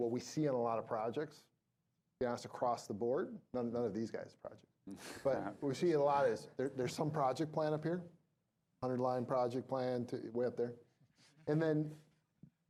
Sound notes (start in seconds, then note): 3.4 laughing